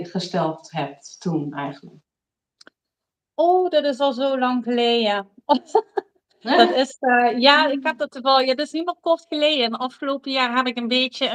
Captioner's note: laughs